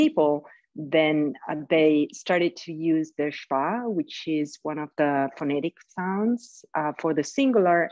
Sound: speaks in Italian

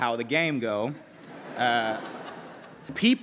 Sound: laughter

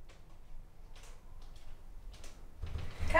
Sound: footsteps

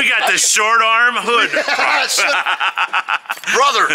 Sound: both laughing

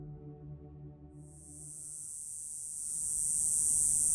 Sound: cicadas buzzing

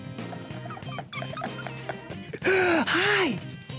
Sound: laughing

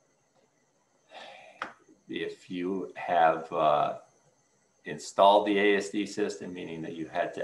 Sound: exhales soundly

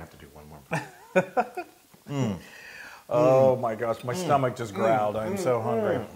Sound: laugh

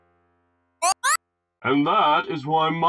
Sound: bubble sound

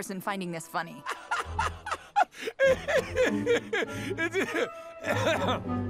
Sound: laughing

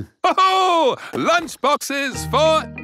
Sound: laughs

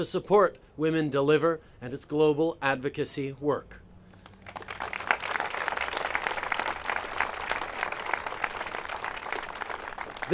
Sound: applause

